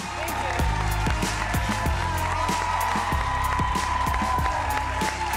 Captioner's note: audience applauding